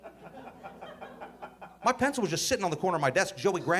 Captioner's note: audience laughing